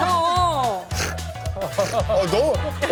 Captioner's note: laughs